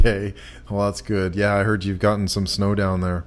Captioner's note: laughs